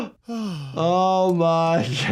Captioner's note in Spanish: suspira